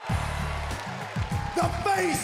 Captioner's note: crowd cheers